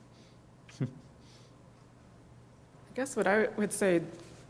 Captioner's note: laugh